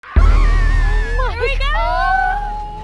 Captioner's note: screaming